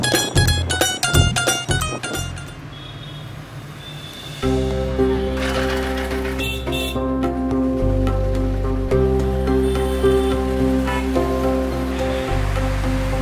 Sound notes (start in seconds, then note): 3.8 horn honking; 4.4 dramatic music